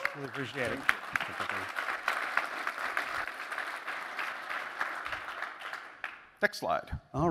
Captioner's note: applause